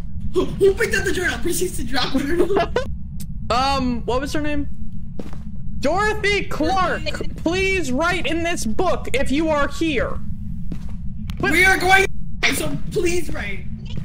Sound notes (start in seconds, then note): 2.0 giggles; 5.8 mic glitches